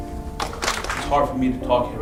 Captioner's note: applause